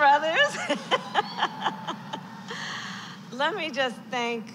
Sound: laughs

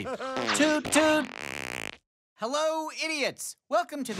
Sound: farting sound

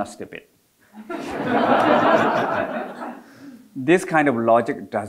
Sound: audience laughing

